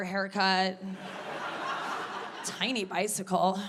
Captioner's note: audience laughing